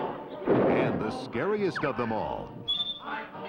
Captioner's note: squeals